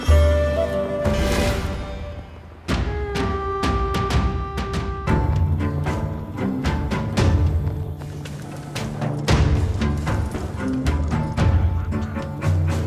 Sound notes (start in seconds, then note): 9.3 armor clattering